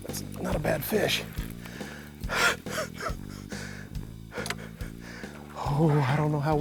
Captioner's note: laughing